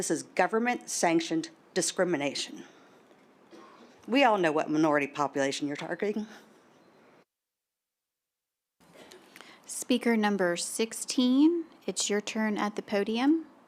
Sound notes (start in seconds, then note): 6.7 silence